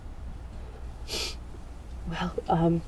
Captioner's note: sniffle